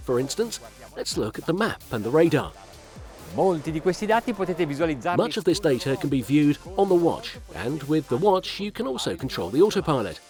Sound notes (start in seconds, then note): 3.6 foreign language